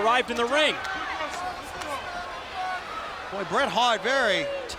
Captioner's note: crowd yelling